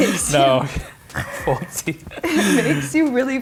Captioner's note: laughter